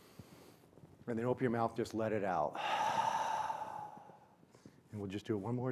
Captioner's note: exhales